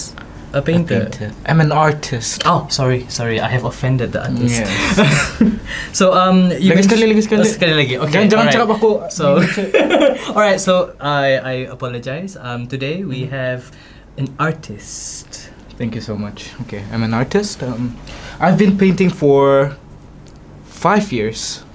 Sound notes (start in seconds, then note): 8.3 laugh